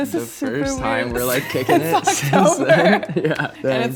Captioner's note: laughs